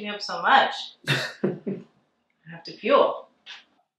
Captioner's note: Hunter laughing